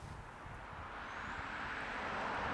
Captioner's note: car passing